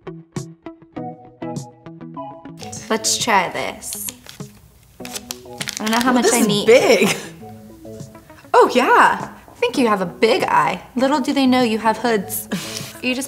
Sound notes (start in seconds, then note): 0.1 light music; 5.0 plastic packaging rustling